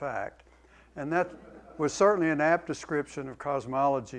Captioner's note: laughter